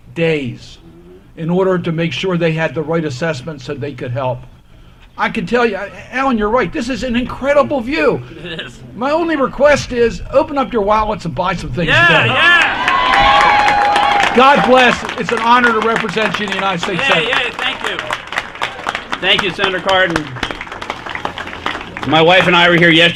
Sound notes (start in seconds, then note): 14.4 applause